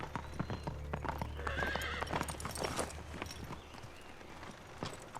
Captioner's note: horse neighing